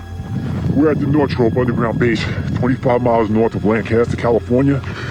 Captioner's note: deep voice speaking